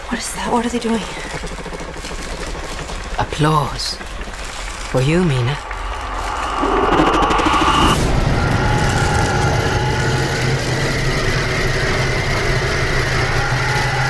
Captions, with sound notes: - What is that? What are they doing? - Applause. For you, Mina. [growling] [growling and chittering]